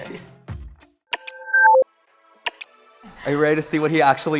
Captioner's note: beeping